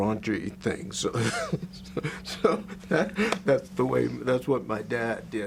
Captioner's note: laughs